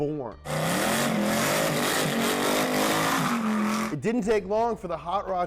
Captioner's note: engine revving